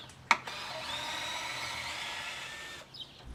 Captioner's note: power tool whirring